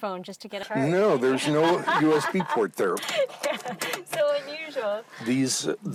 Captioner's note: laughs